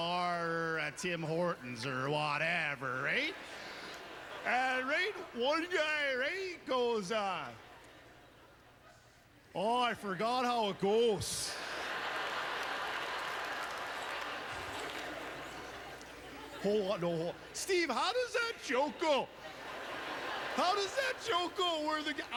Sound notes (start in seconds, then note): 10.4 audience laughter; 13.9 applause